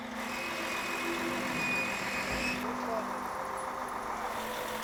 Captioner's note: gate screeches open